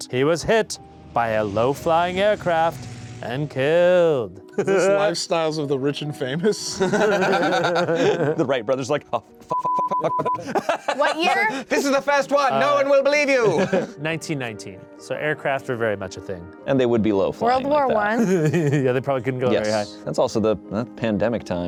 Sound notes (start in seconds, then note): 6.4 laughs; 9.5 beep; 9.9 laughs